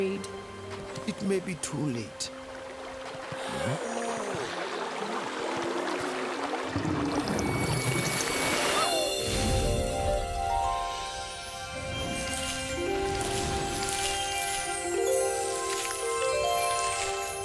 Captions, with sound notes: - It may be too late. (all gasping) (gentle music)